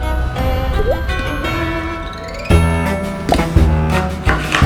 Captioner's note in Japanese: コツ！